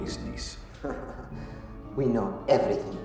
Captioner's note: laughing